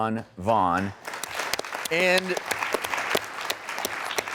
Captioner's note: audience claps